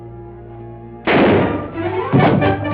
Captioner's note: gunshot